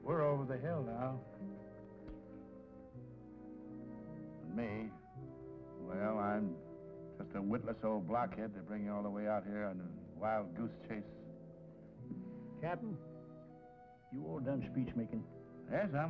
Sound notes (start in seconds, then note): none